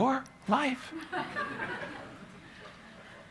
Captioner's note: laughter